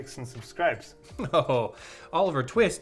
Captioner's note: chuckles